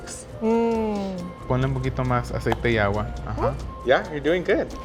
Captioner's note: speaking Spanish